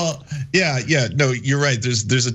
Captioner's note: laugh